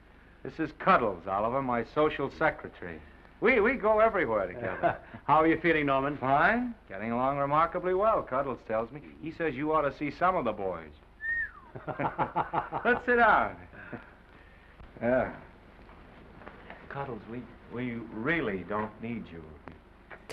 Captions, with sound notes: This is Cuddles, Oliver, my social secretary. We-- we go everywhere together. -How you feeling, Norman? -Fine. Getting along remarkably well, Cuddles tells me. He says, "You ought to see some of the boys." -[Norman whistling sharply] -[Oliver chuckling] Let's sit down. Uh... Cuddles, we-- we really don't need you.